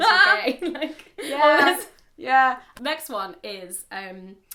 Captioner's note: laughing